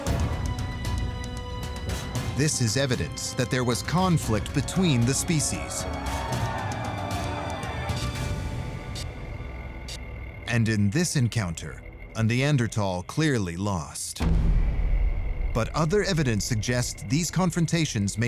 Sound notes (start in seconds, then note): 0.4 music tension intensifies; 6.0 men shouting